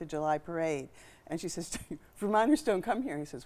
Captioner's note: chuckling